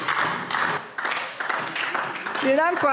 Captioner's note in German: Beifall DIE LINKE